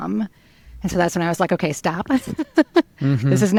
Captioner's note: laughs